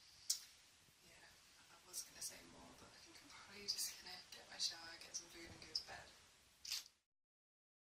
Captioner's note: clicks